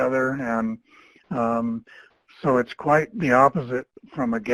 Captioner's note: chuckles